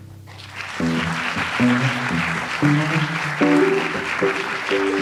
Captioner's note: audience applauds